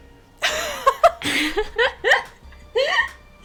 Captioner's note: laughing